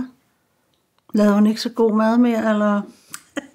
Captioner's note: laughs